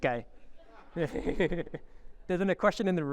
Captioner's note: audience laughing